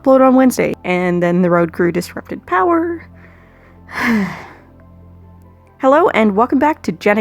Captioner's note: sigh